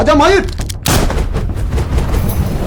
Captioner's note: gunshot